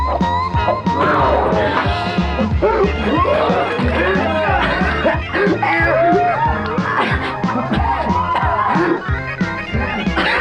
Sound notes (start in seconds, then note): 2.3 gasping; 7.5 coughing